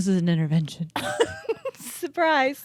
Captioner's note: both laughing